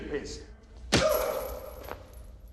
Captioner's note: punch and gasp